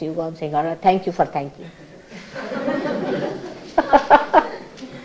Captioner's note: laughing